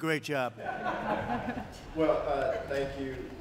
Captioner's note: laughter